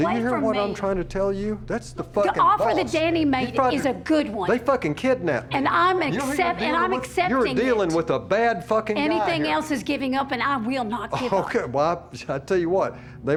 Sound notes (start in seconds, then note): 5.3 arguing